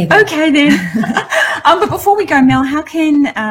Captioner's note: laughs